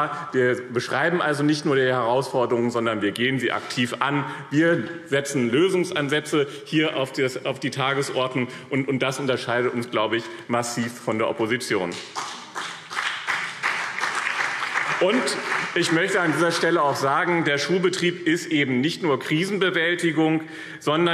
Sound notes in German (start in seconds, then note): 11.8 Beifall BÜNDNIS 90/DIE GRÜNEN und CDU